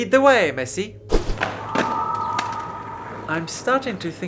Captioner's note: skateboard clatters